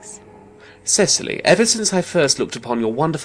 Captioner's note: speaking very rapidly